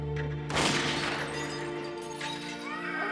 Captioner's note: glass shattering; gun firing